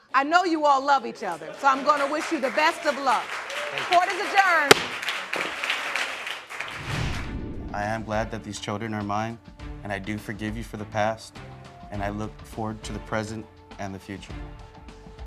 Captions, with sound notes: I know you all love each other so I'm gonna wish you the best of luck. Court is adjourned. (CROWD APPLAUDING) I am glad that these children are mine and I do forgive you for the past. And I look forward to the present and the future.